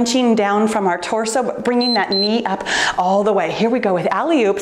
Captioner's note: timer beeps